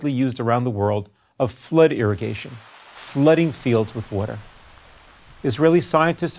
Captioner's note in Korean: 流水